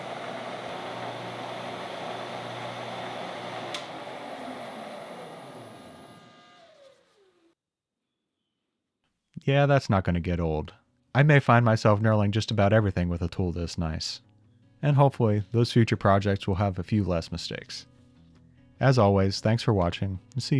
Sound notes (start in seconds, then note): 0.0 machine continues whirring; 3.6 switch clicking; 3.8 machine powering down